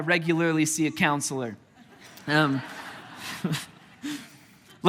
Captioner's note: congregation laughing